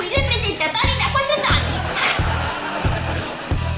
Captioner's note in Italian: risate